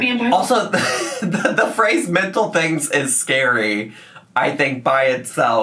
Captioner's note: laughs